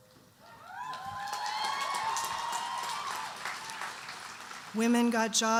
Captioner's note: audience cheering and applauding